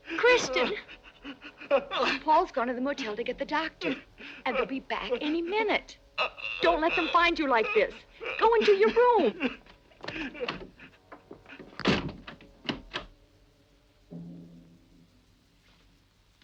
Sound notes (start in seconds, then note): 11.1 door bangs; 11.5 lock clicks